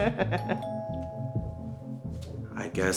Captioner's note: sound of laughing; sound of doorbell ringing